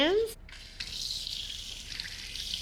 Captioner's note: water running; splashing